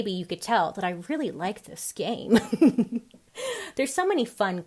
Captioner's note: giggles